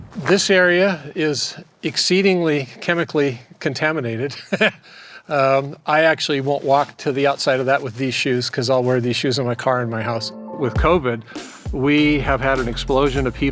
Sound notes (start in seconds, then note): 4.3 chuckles